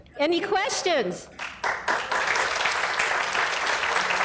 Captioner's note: applause